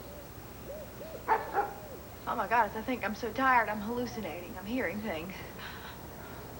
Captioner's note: valentine barks